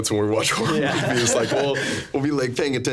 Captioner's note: laughing